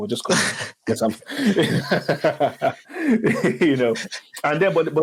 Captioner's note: speakers laughing